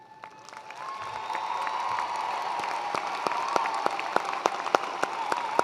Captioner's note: attendees cheering and applauding